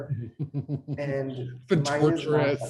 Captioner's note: laughter